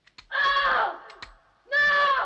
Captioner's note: woman screams